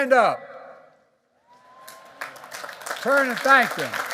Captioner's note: applause